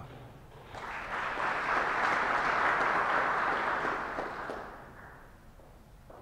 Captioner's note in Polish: oklaski